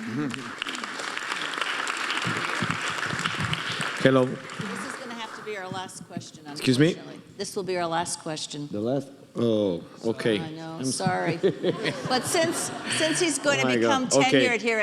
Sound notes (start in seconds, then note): 0.0 audience applauding; 11.0 audience laughing